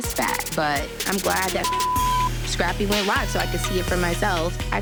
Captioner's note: beep